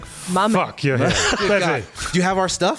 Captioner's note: laughter